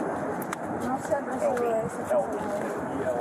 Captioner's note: speak in Foreign language